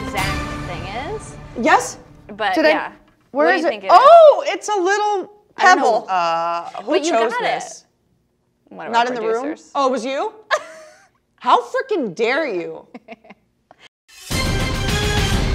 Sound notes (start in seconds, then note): 12.9 laughs; 14.2 competitive music